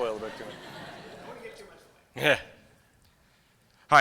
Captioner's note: laughter